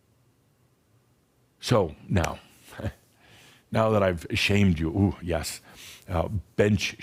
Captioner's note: Adamus chuckles